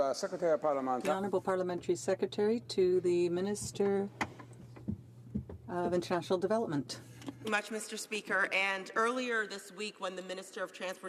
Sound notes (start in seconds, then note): 3.8 speaking French